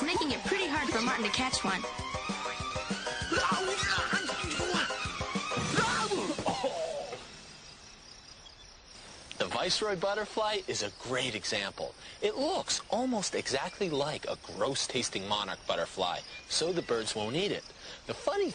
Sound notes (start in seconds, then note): 2.9 exclaims, groans